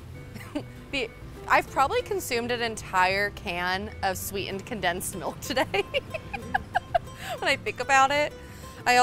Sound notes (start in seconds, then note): 5.5 laughing